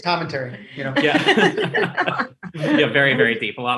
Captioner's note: laughs